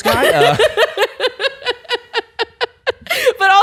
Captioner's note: bursts into laughter